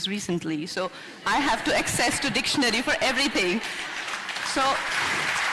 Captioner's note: applause